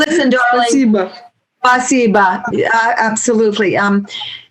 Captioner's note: speaking Russian